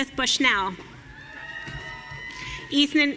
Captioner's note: audience cheering